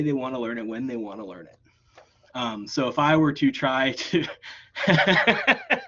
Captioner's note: laughs